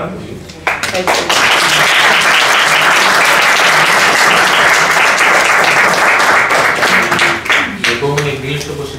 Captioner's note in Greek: χειροκρότημα